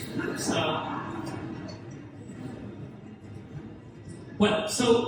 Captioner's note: audience laughs